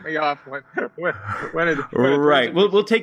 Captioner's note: laugh